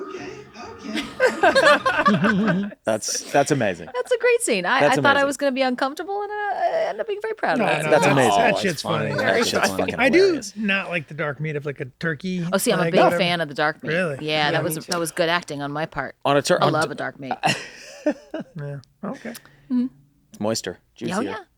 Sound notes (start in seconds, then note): 0.8 they all laugh; 17.3 Glenn chuckles